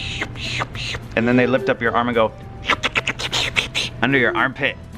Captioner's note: sucking